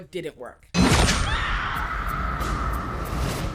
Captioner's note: gunshot; screaming